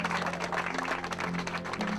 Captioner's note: navigators clapping